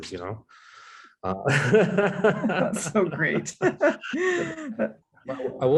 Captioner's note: laughter